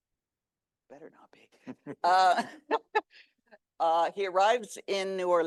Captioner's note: laughs